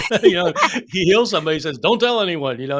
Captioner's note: laughing